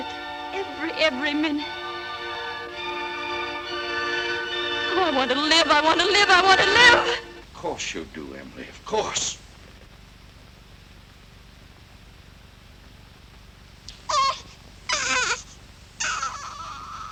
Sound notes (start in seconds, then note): 13.6 baby crying